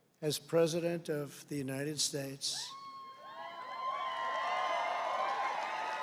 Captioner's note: applause